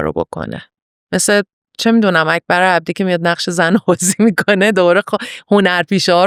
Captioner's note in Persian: خنده